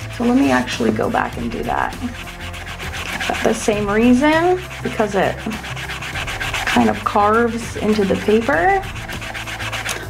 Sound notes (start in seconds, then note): 2.2 eraser rubbing; 7.8 blows